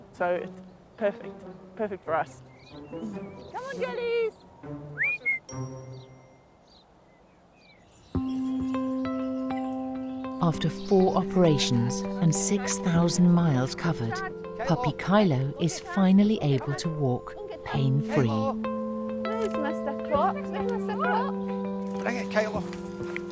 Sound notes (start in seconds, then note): 4.9 whistling; 8.2 gentle music